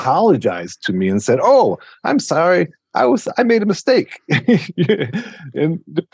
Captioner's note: laughs